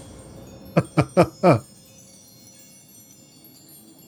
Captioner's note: laughter